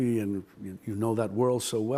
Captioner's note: none